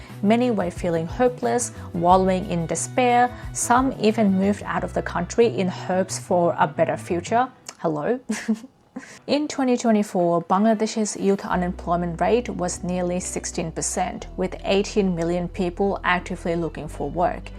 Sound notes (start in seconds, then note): 8.3 laughs